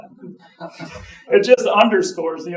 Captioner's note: audience chuckling